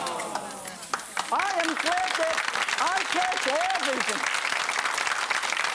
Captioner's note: audience applauding